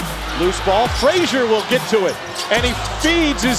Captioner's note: voiceover